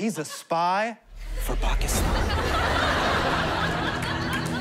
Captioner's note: thunder crashes